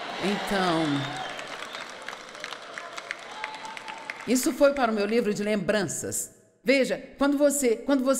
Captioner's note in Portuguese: audiência aplaude